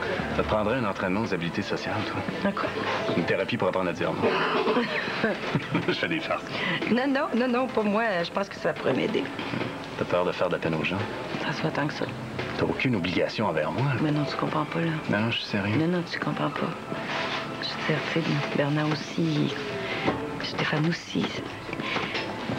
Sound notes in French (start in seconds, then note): 4.2 Rires